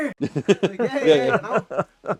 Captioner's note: both laughing